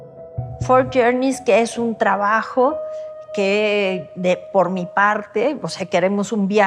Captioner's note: speaking Spanish